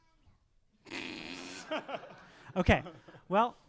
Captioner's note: laughing